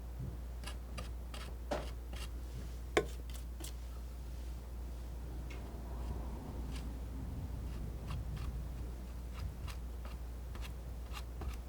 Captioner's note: scratching